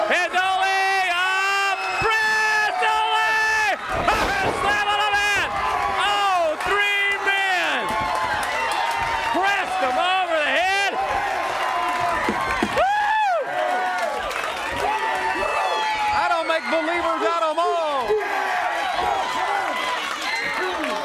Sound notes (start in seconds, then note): 0.2 crowd cheering; 11.5 crowd cheering